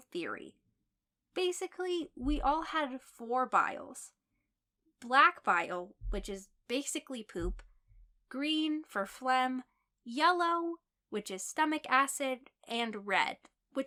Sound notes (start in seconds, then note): 6.6 phlegm